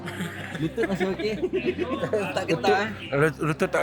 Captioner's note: laugh